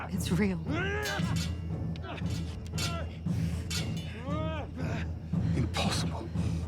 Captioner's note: swords clanging; fighters grunting